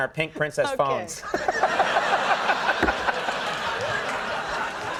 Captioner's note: people laugh